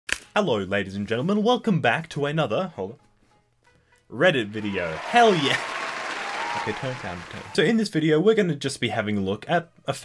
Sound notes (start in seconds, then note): 4.4 cheers